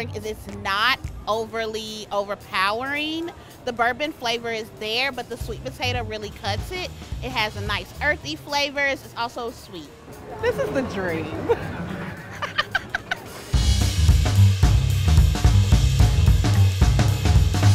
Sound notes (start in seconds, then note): 10.3 laughing; 12.7 instrumental music